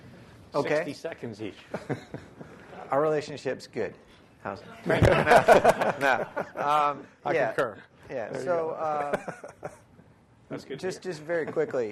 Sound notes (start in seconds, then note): 4.8 laughter